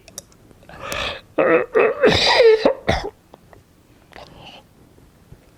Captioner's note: coughing